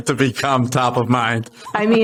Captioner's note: laughing